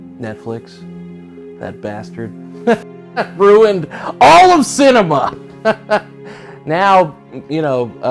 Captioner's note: laughs